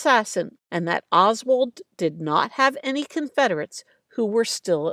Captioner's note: none